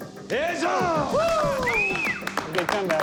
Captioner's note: cheers, applause